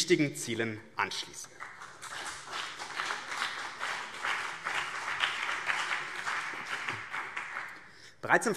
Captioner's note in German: Beifall BÜNDNIS 90/DIE GRÜNEN und CDU